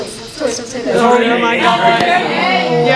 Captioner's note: arguing and panic